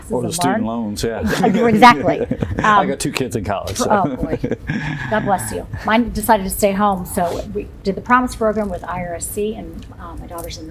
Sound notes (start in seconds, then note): 3.8 laghter